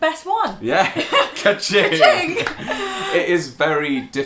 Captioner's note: laughing